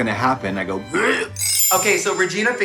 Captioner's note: gags